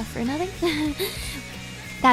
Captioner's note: laughs